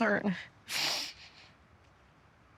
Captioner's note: sniffles